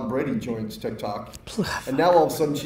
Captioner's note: Gary sighs